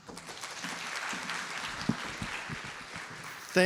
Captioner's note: applause